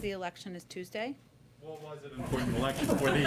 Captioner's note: laughter